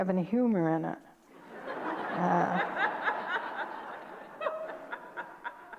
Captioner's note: audience laughter